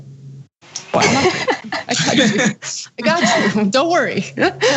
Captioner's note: laugh